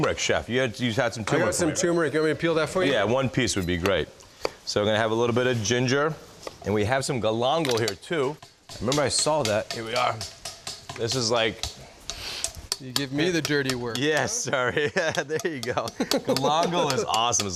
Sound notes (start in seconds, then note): 12.1 sniffing